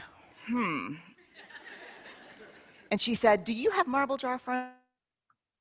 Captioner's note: laughter